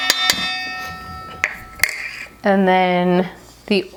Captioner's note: metal clanks